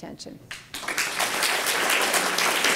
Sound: applause

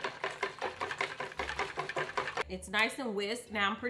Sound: whisk clanging

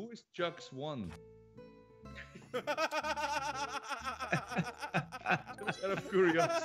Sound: laugh

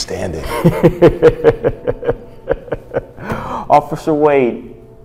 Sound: Captain laughing

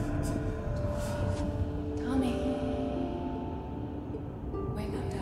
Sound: echoing

